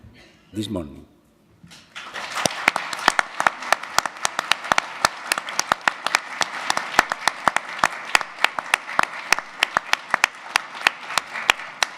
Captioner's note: audience Applause